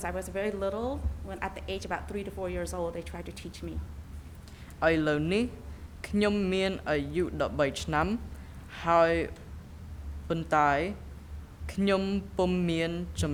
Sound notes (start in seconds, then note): 5.2 speaking in a foreign language